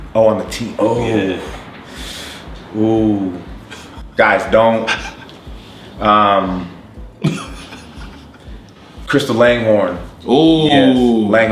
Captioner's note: laughs